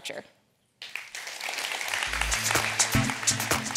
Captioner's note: audience applauding supportively; upbeat rhythmic music returns